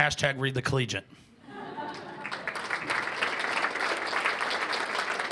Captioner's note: cheers and applause